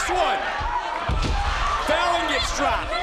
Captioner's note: body slamming